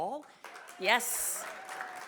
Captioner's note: audience clapping